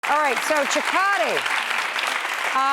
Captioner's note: audience clapping